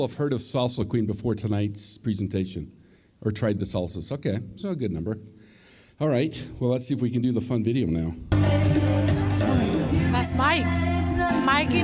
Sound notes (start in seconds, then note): 9.4 speaking spanish